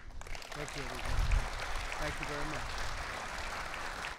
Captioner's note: applause